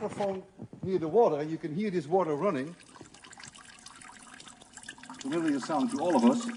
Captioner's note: sound of water running